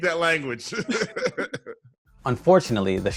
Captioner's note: laughing